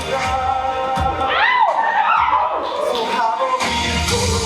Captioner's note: audience cheers